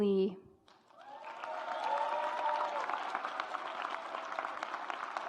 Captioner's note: audience applauds